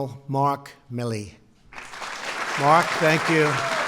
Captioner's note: applause